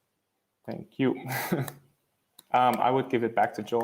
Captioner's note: laughs